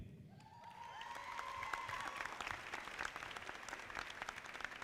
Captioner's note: audience applauding